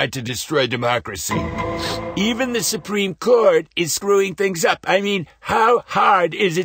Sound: sniff

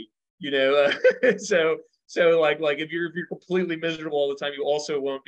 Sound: laughs

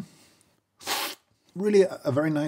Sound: slurping

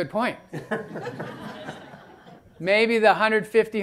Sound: laughter

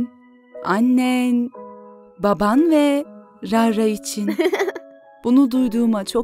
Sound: laughing

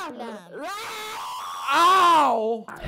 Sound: screeching

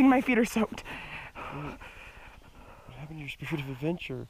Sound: shivering

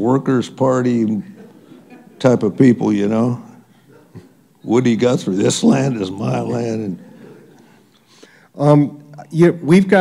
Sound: laughter

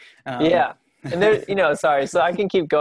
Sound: laughs

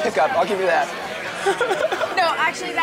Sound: laughs

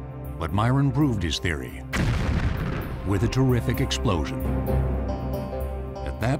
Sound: explosion

